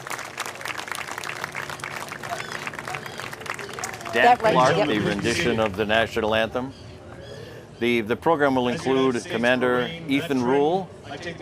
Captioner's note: cheers and applause